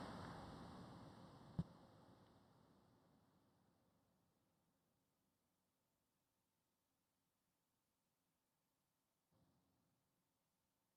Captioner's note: applause